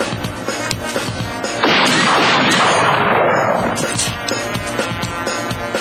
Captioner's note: gunshots